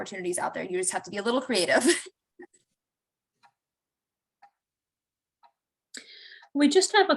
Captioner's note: laughter